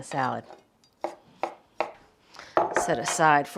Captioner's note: knife thudding